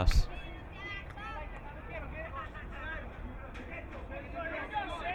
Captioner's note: crowd cheering